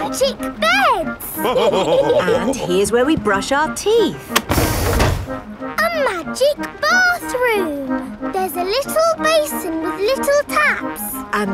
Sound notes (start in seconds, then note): 1.3 all laughing